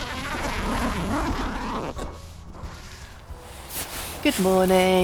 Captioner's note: zipper opens